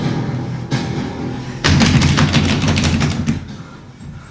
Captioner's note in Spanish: Golpeando el suelo